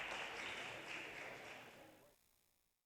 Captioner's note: audience cheers and applause